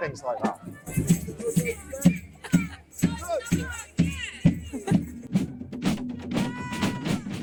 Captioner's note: people chattering; lively music